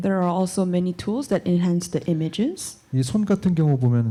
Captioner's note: none